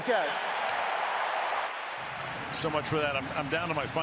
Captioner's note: crowd cheering